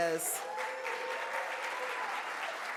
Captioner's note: audience cheers; audience claps